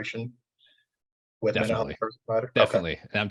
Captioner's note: audio distortion